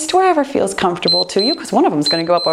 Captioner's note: timer beeps